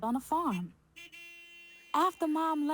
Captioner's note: horn honking